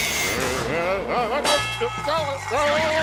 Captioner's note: nervous groans